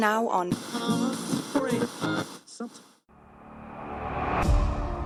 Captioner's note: radio static plays, scanning through various channels